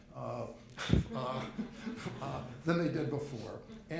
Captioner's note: group chuckles